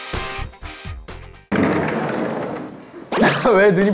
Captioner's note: door slides open